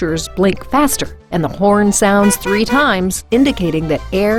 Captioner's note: car horn beeps